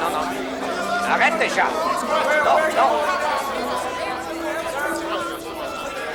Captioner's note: John yells in French